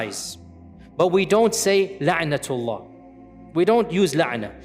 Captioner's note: Arabic